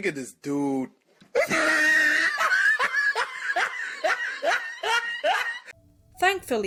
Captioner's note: meme laffter